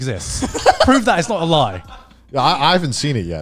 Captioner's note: laughing